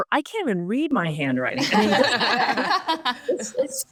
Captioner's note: group laughs